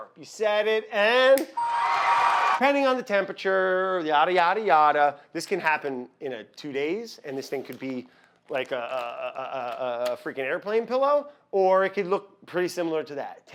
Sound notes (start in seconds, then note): 1.5 audience cheers; 1.5 game show bell chimes